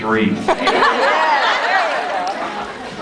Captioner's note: laughs